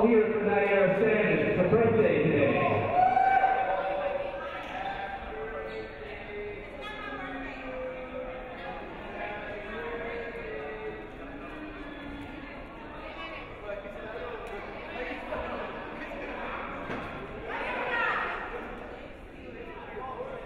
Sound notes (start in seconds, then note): 2.6 crowd cheering